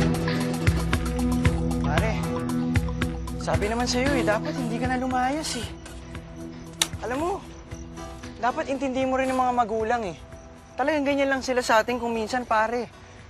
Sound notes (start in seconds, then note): 4.0 groaning